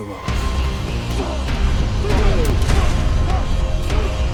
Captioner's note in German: Ächzen